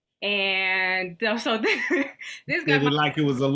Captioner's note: chuckles